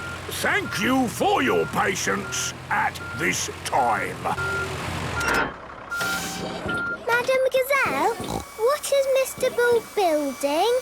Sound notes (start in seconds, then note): 4.3 beeping, hydraulic noises